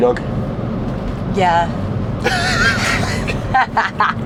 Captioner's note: laughing